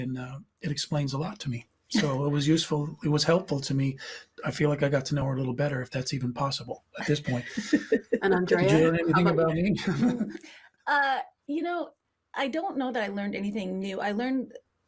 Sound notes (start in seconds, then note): 9.6 chuckling